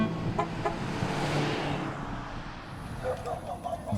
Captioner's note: horn beeps